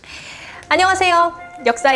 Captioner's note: gasp